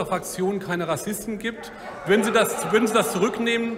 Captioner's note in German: Lachen bei der AfD